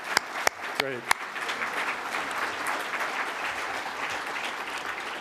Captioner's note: applause